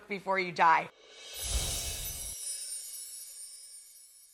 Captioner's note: twinkling